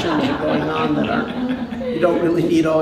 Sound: laughter

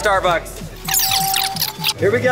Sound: fast forward sound

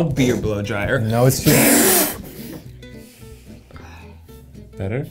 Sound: Ned blows

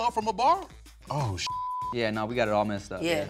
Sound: beep

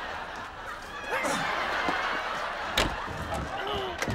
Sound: canned laughter

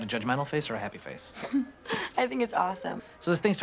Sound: laughs

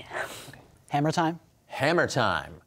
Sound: quietly

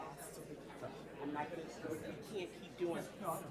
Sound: speaks faintly

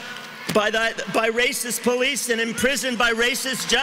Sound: cheering and applause

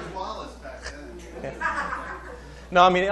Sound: laughter

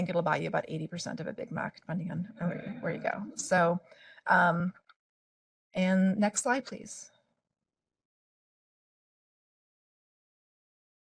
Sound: laughing

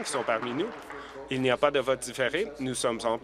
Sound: applause

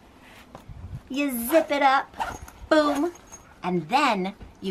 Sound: zipper zipping

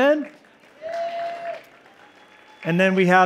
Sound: cheering

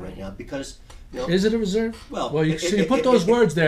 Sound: voiceover

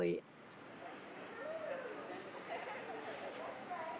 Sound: background chatter

